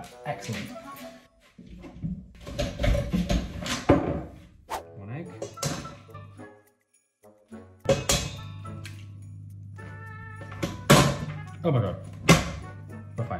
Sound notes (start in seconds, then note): 3.1 bowls clinking; 8.0 eggs tapping; 10.4 mixer thudding